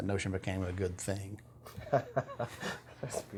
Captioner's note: laughter